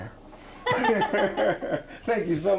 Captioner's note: laughing